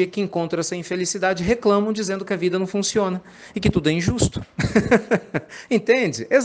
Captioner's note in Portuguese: risadas